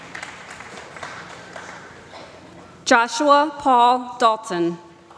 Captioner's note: applause